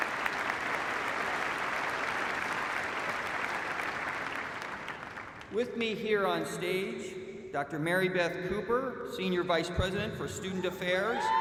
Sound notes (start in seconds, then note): 4.0 applause